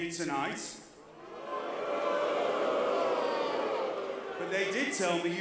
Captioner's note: crowd cheering